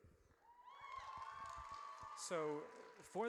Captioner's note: audience cheers